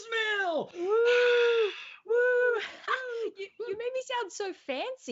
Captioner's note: whoops softly; laughs